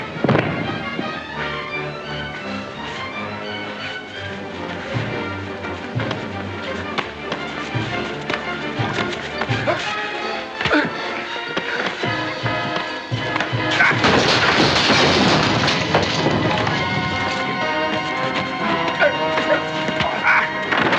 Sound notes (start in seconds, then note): 0.2 thump; 1.6 suspenseful music; 6.0 sounds of scuffling; 6.0 suspenseful music; 13.6 crash; 16.3 sounds of scuffling; 16.3 suspenseful music; 20.6 crash